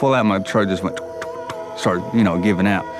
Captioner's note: imitates engine chugging